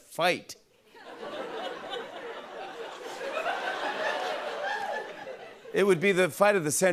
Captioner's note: laughter